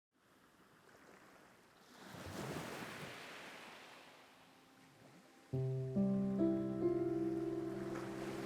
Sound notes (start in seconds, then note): 2.2 waves crashing softly; 4.5 gentle music